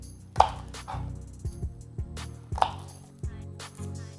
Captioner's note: chopping